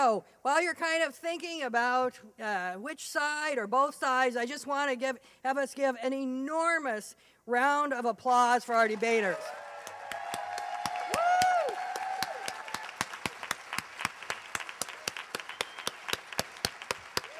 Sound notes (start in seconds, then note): 8.8 applause